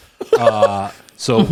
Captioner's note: laughs